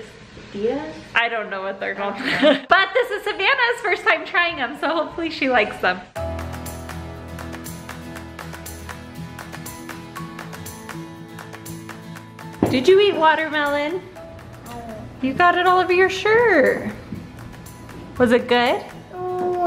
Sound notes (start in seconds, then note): 2.2 giggles; 6.4 upbeat music; 14.9 murmurs